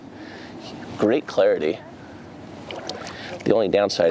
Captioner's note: water splashing